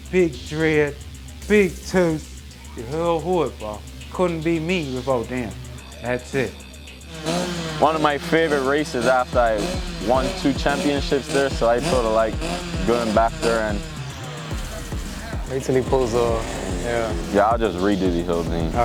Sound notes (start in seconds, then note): 7.8 bike revs; 13.8 revs stop